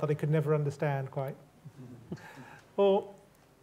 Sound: crowd chuckles

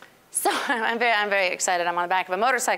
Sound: chuckling

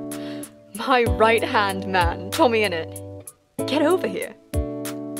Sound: excited

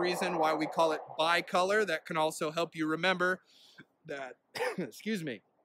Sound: coughs

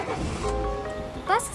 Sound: engine starting

